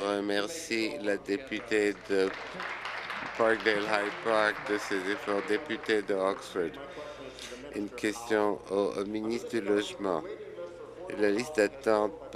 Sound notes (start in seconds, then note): 6.2 applause